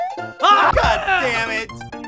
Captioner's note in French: cri